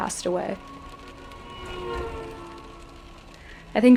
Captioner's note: car speeds